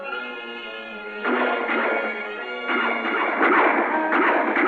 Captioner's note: gunshots